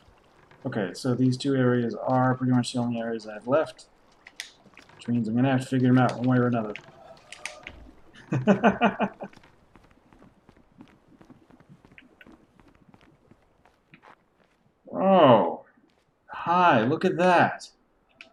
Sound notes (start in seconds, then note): 9.6 laughs